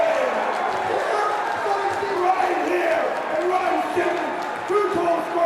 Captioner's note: crowd cheering